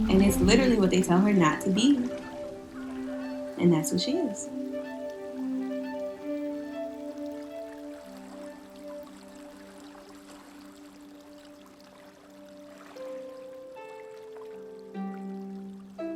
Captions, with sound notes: And it's literally what they tell her not to be. And that's who she is. [water tinkling] [ethereal music]